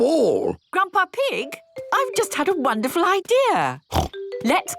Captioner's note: snort